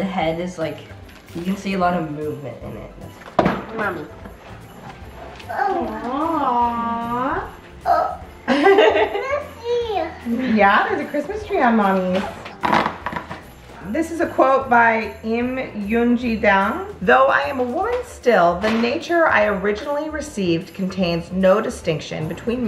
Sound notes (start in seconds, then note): 3.1 bangs box against another box; 8.4 chuckles; 12.6 tearing box